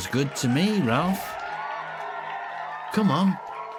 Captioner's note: crowd cheering